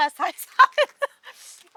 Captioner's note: laughing